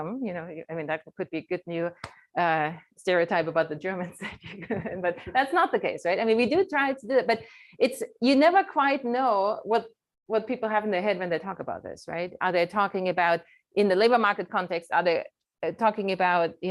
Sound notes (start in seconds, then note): 4.2 chuckles